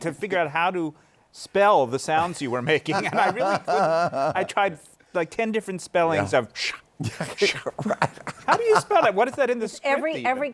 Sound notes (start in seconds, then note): 2.7 laughter